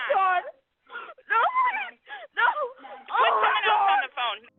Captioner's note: caller panicking